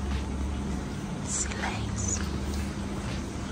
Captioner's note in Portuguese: sussurrando